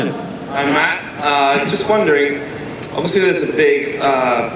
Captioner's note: voiceover